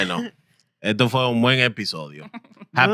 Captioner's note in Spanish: Hablando en idioma extranjero